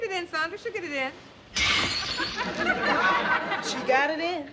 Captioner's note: glass shattering